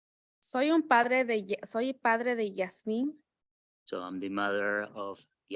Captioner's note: speaking in Spanish